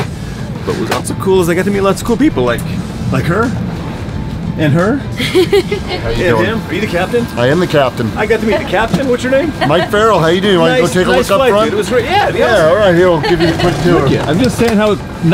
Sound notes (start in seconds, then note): 5.2 laughter; 13.0 female laughing